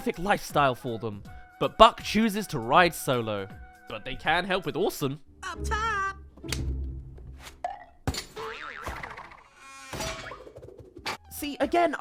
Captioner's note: up top! *Clatterings